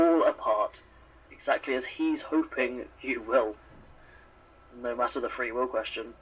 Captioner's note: nyx’s breathing steadies gradually